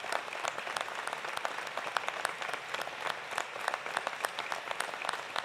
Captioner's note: applause continues